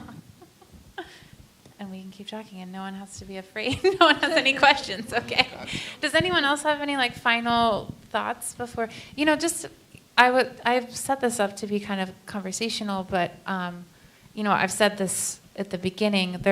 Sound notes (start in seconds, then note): 3.8 laughs